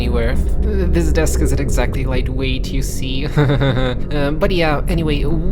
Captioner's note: insincere chuckle